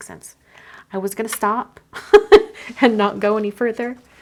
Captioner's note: laughs